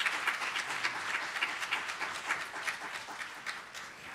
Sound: applause

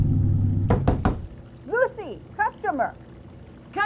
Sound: knocking at door

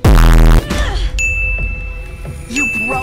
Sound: ding

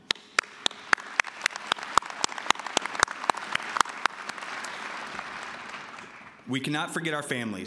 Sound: applause

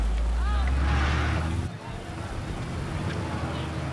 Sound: engines whirring

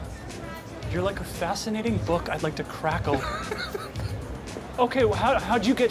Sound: laughs

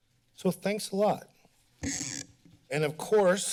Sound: mic rustling

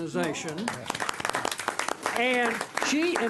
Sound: clapping

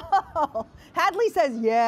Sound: laughter

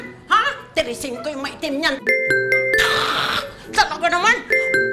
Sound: alert sound; alert sound

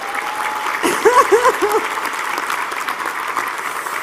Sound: applause; laugh; applause

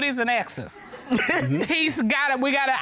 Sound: chuckles

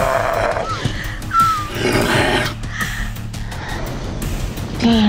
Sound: growling; whimpering

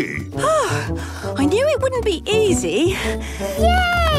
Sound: panting

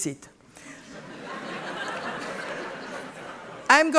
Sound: laughter

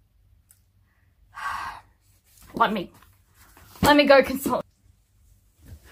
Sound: sighs

